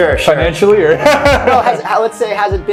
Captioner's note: laughs